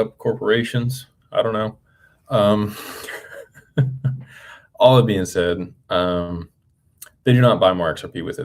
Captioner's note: laughter